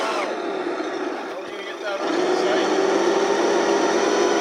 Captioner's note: men talking in background